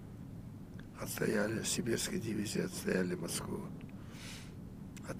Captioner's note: sniffling